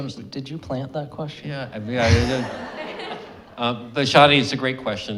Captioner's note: audience laughing